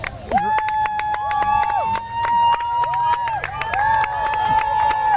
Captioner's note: people cheer and clap